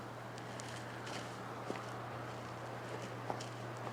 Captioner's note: wind blowing softly